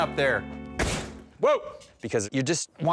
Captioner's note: thudding sound